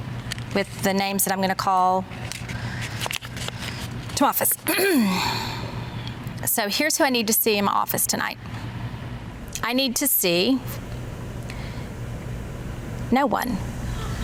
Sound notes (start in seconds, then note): 4.6 clears throat; 14.0 women gasping